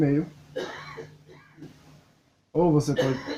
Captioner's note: cough